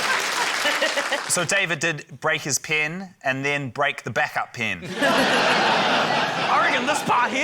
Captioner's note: laughter